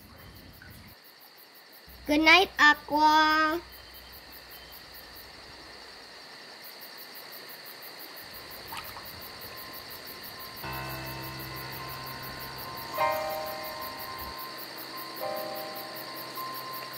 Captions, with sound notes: - Good night, Aqua. (crickets chirping)